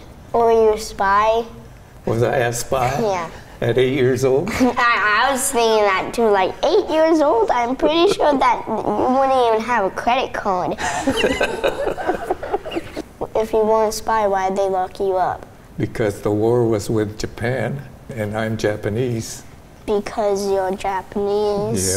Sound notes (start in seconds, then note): 4.7 laughs; 10.8 and crew laugh